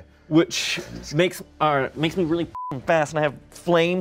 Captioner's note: beep